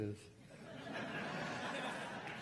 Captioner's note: crowd laughing